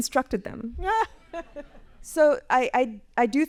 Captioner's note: laughs